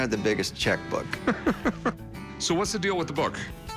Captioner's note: chuckles